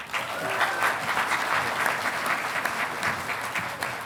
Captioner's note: audience applauding